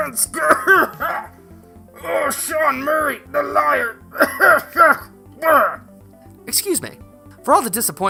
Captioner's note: cough; cough